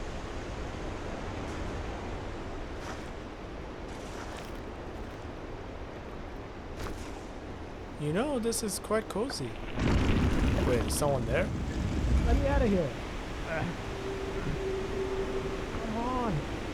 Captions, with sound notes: You know, this is quite cozy. Wait, is someone there? Let me out of here! *grunts of struggle trying to lift the lid* Come on!